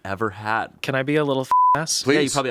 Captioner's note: beep